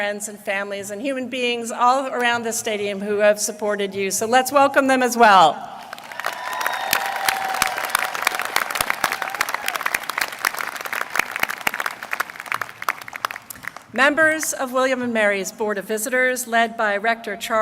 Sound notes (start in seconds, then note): 12.8 applause